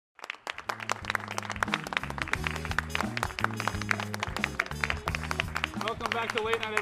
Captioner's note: small applause